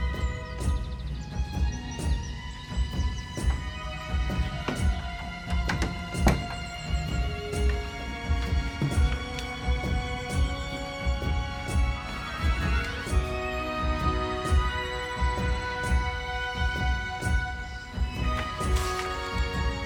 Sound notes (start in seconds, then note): 0.1 birds chirping; 5.6 door thuds softly